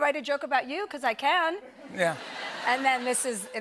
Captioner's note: laughter